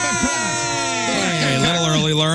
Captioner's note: screaming